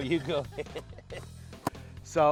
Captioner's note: laughing